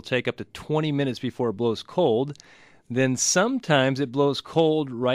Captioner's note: none